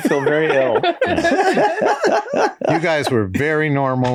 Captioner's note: all laughing